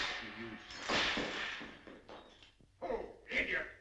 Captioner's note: shattering